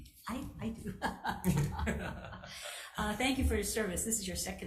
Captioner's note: chuckling